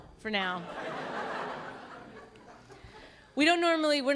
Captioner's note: laughter